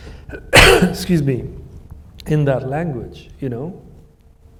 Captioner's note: coughs